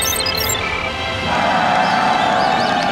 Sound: computer sounds; cheering

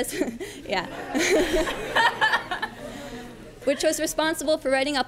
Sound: laughing

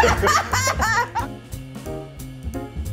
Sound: group laughing

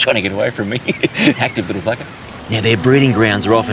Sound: laughs

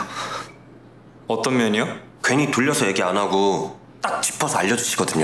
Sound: speaking Korean

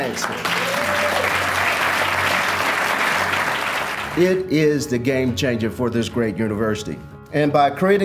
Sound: applause

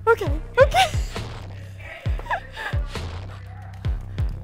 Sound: giggles; suspenseful music

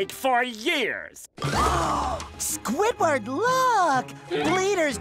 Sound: gasping

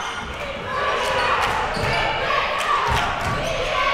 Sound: crowd

